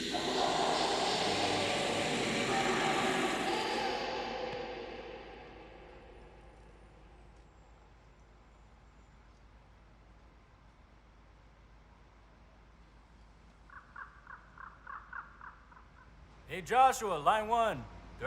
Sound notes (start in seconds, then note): 13.3 bird crowing